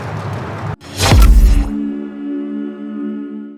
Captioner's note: logo buzzes; calm music